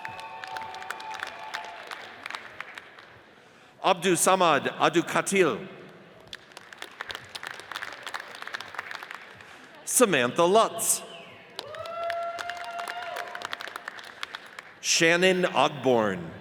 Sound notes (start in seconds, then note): 0.0 audience cheers and applauds; 6.2 audience applauds; 11.5 audience cheers and applauds